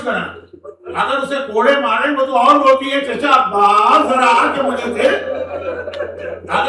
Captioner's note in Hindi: हंसी